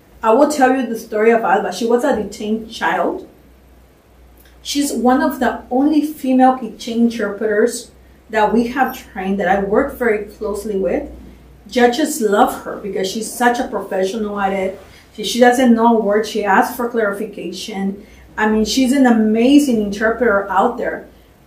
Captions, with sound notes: I will tell you the story of Alba. She was a detained child. She's one of the only female [NON-ENGLISH] interpreters that we have trained that I work very closely with. Judges love her because she's such a professional at it. If she doesn't know a word, she asked for clarification. I mean, she's an amazing interpreter out there.